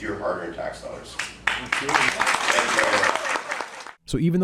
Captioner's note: clapping